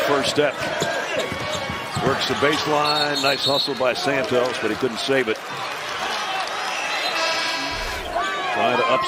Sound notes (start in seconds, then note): 3.0 whistle; 7.0 buzzer